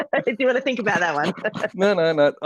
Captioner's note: laughs